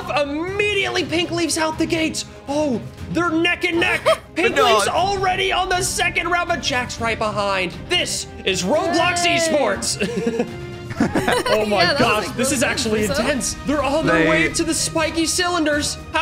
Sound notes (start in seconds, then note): 4.1 tense orchestral music; 4.4 laughs; 10.8 hosts laughing; 10.8 laughs